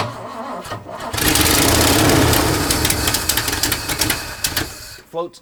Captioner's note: engine sputtering